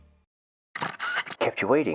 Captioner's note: radio tuning in